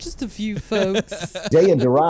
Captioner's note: laughs